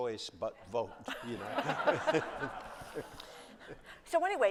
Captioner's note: laughter